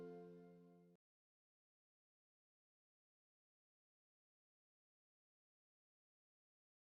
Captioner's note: silence